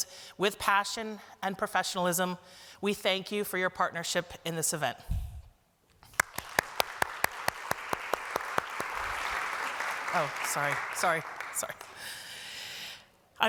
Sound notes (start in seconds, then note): 6.1 applause